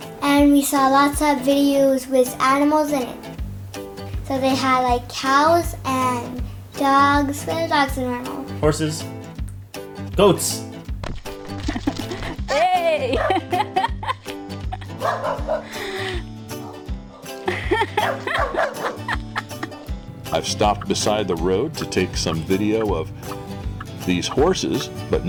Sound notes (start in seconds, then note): 11.5 laughs; 14.9 dog is barking; 17.2 laughs